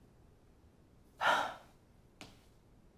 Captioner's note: sighs